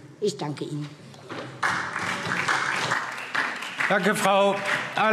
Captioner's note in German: Beifall SPD